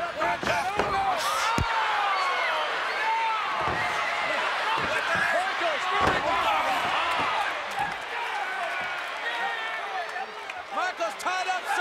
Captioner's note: applause